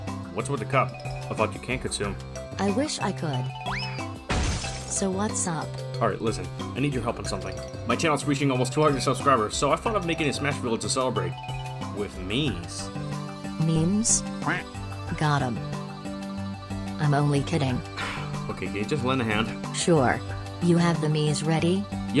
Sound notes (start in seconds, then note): 17.9 sigh